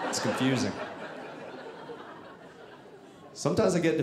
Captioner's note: audience laughing